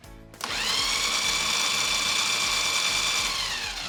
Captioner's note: blending sounds